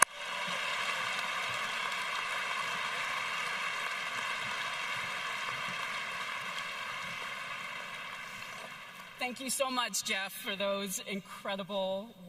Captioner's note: applause